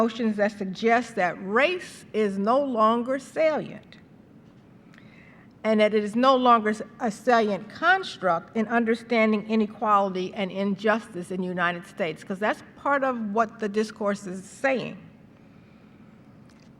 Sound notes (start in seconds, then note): none